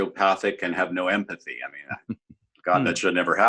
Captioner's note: laughs